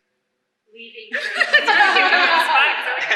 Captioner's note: laughter